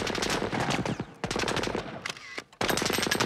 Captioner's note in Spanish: shutter clicks